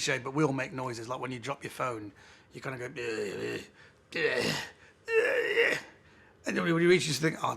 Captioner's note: grumbling noises